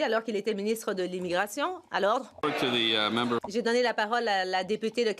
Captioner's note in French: voix de l'interprète